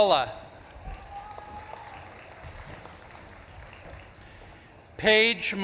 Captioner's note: audience claps and cheers